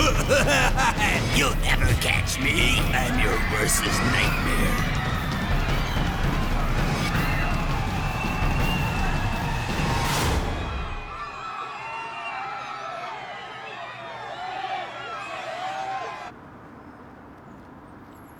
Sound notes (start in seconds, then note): 0.0 menacing laughter; 5.8 screaming